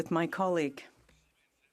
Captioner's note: speaking French